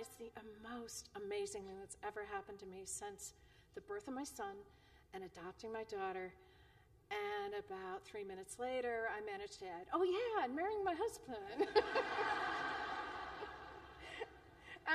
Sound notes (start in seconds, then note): 11.5 laughter